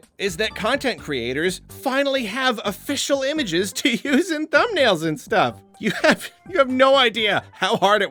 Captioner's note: laughs